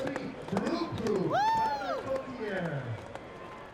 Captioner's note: cheers